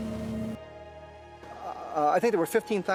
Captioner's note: phone whirring